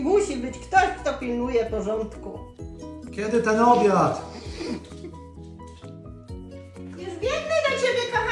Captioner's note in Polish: parsknięcie